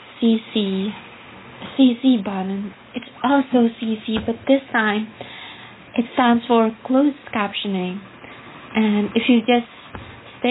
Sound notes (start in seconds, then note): none